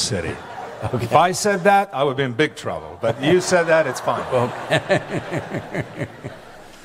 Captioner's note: laughter; laughs